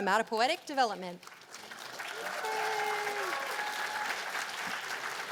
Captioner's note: cheers and applause